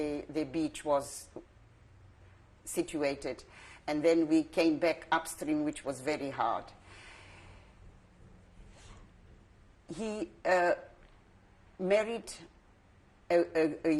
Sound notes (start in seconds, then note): 6.7 pauses for 3 seconds